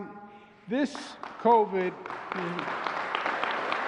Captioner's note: applause